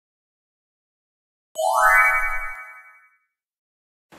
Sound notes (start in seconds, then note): 1.6 chimes